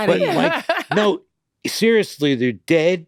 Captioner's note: laughs softly